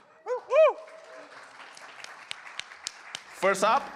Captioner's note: applause